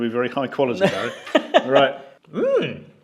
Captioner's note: laughs